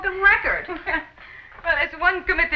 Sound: laughs

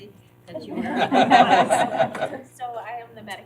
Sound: laughter

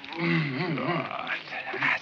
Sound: Arnold grunting

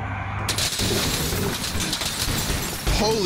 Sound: glass shattering

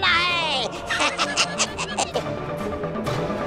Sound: chuckles

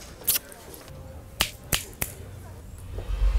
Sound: snaps

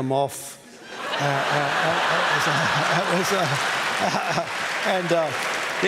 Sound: laughter

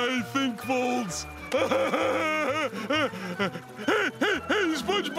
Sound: laughing

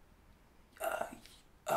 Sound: choked

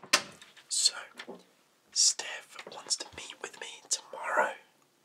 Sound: whispers

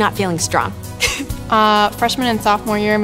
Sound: chuckles

